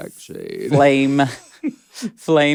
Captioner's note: laughs